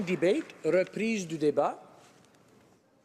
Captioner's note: applause